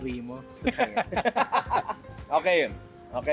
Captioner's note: laughter